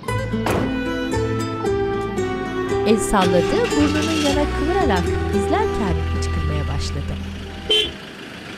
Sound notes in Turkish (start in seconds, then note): 2.6 Araba sesi; 7.0 Korna sesi